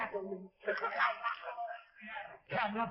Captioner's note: laughs